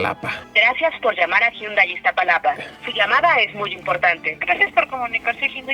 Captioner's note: recorded voice